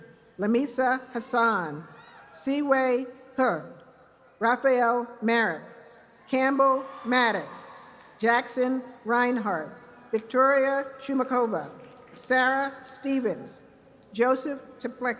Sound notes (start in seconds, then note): 11.6 cheers and applause